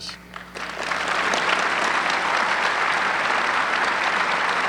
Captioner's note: audience clapping